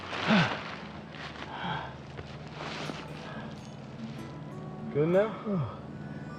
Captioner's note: Dave breathing heavily